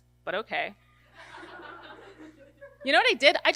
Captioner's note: audience laughter